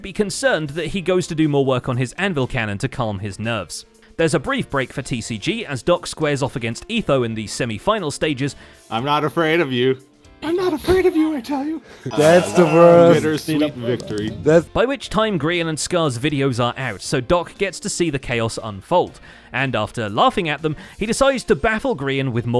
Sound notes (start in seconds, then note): 10.0 mocking voice; 12.0 winning chimes